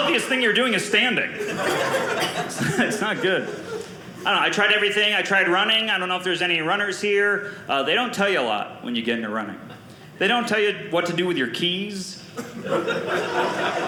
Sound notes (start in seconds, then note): 12.4 audience laughing